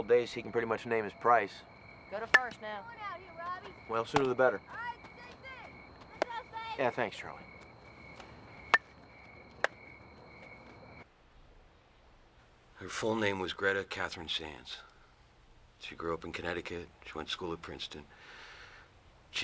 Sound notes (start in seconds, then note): 8.7 bat striking ball